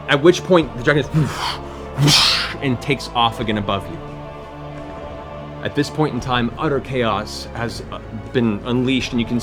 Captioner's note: wingbeats